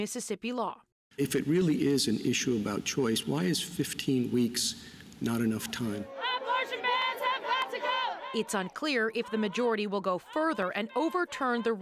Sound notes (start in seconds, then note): 7.9 chanting